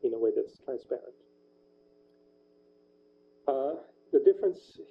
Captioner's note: pause